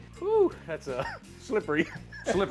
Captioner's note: chuckles; laughs